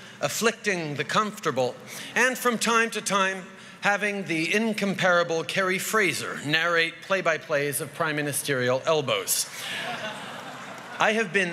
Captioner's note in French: Rires